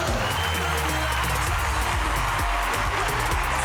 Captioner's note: crowd cheering